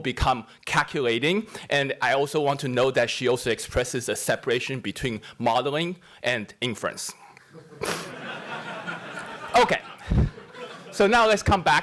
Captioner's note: laughter